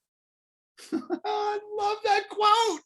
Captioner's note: laughter